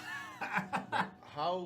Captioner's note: laughter